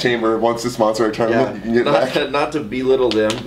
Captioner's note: laughs